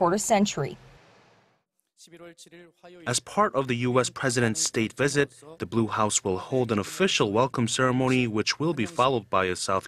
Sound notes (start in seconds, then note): 1.2 Korean